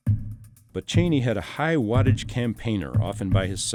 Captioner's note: voiceover